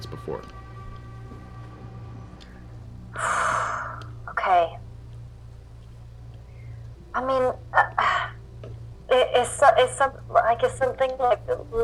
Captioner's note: sighs